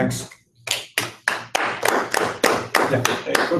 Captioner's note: clapping